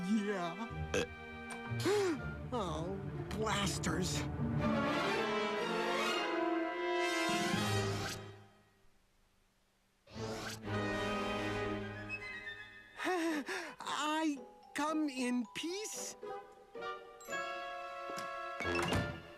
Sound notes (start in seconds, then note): 0.9 burps; 1.8 gasps; 13.9 laughs sheepishly